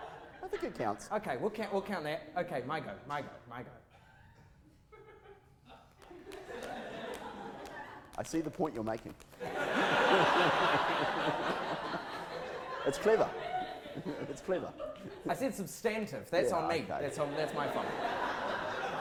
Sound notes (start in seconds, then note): 9.4 audience laughter